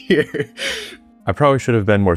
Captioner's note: laughing